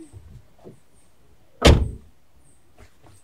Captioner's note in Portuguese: Porta batendo